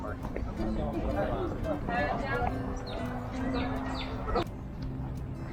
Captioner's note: people chatter